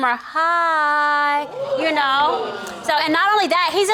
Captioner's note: audience gasping